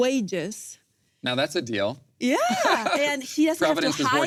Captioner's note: laughs